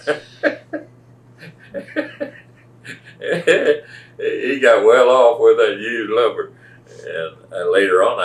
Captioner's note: laughs